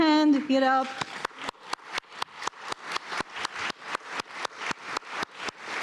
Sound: audience applauding

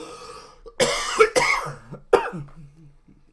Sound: coughing

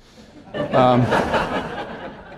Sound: laughter

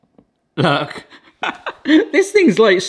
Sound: laughs

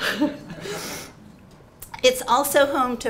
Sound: all laughing

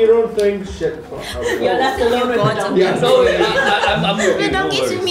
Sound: grumbling

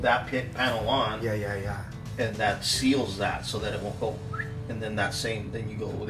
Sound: whistles

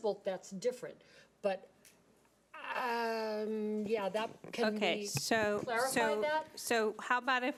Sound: stammering

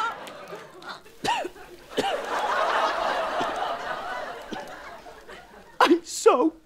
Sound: sobbing; coughing

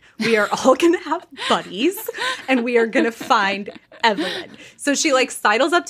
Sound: laughing

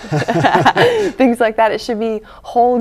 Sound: laughter

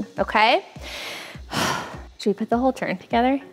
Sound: sighs

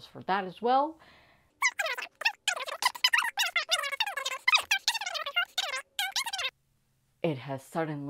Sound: sped up talking

